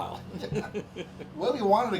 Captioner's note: both laughing